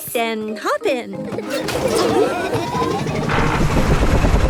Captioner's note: laughing